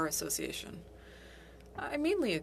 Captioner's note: speaking French